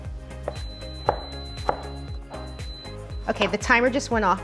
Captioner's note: beeping